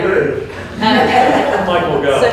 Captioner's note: attendees chuckling